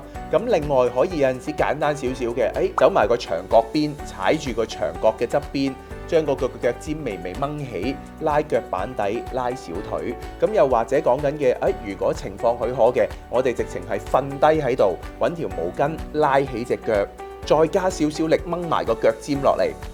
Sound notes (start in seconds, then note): 2.8 speaking in foreign language